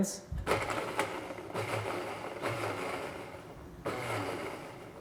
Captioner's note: blender pulsing